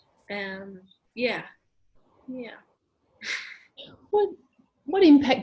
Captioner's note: laughs